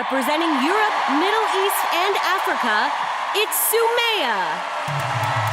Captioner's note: applause